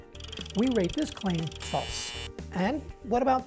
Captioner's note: buzzing